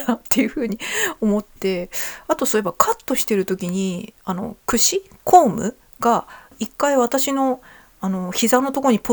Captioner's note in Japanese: 笑い